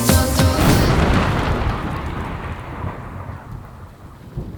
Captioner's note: the sound of thunder